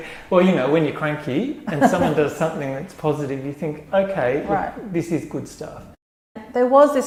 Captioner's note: laugh